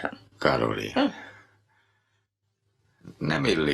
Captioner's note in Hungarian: Carolyne nevetős hümmögése